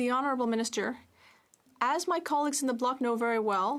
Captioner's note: speaking French